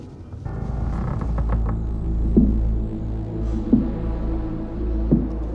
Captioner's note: creaking and thudding